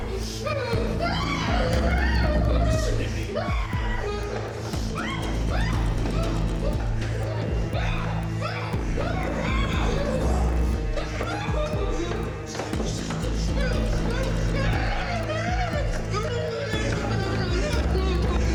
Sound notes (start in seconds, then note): 0.1 dramatic music; 7.9 Mia groaning; 11.8 dramatic music